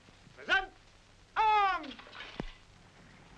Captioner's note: Italian spoken audio